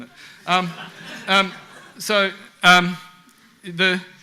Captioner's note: audience laughs